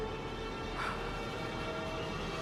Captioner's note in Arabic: يزفر